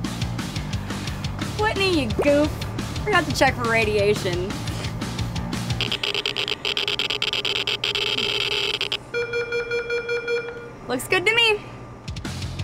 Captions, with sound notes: Whitney you goof, I forgot to check for radiation. (Dector buzzes) (beeping) Looks good to me.